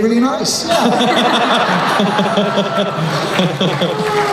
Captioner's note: laughing